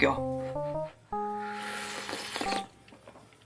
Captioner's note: slurping